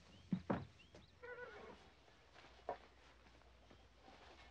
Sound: horse whinnying

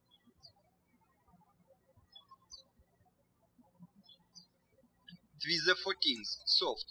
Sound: birds chirping

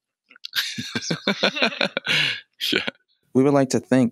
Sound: laughter

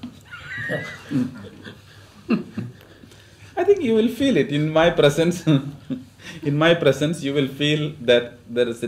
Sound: laughs; laughter

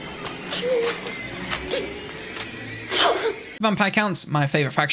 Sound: paper tearing; man whimpering

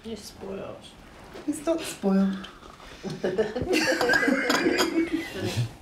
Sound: laughing

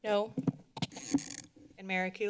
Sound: mic noise

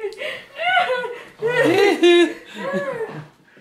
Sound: laughs

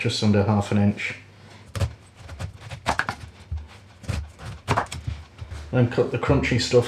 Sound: chopping

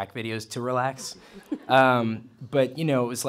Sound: laughter

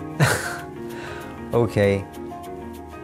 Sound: laughs

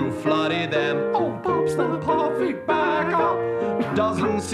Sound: falsetto

